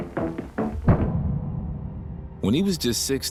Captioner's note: bright upbeat music; tense brooding music; explosion booms